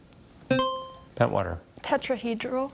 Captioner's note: buzzer chimes